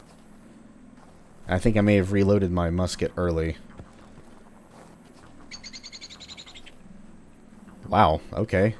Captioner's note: birb sounds